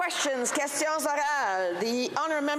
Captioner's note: applause